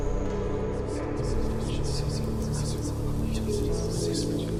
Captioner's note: spirits whisper